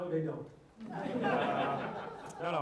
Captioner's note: laughter